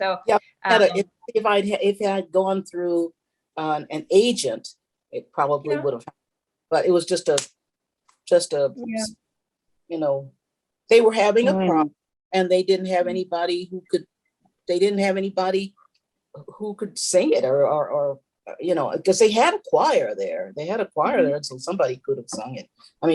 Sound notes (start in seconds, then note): 8.9 snaps fingers